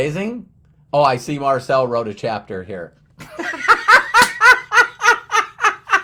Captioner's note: laughs